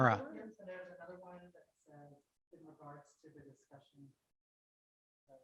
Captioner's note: audience member quietly talking